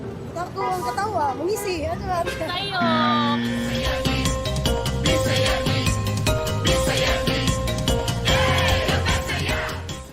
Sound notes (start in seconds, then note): 2.8 buzzer blares; 3.7 upbeat music playing